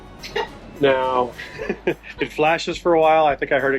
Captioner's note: chuckling; laughs